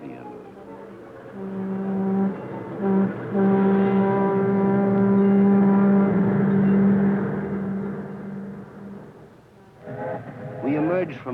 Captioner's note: horn blaring